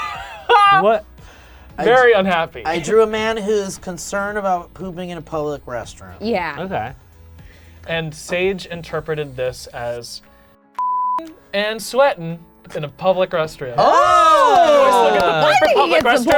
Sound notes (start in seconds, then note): 10.8 beep; 13.8 all cheering